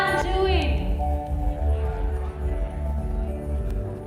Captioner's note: group murmuring